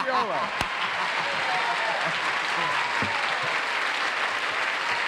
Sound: cheers and applause

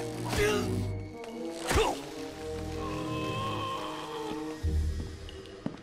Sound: grunting with pain

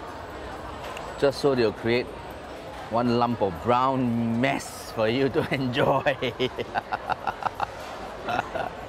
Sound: laughs

